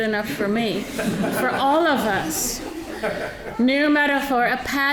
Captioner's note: audience laughing